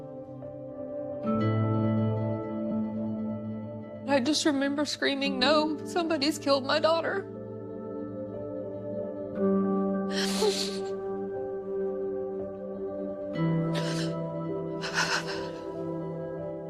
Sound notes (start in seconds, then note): 0.2 somber music; 10.2 crying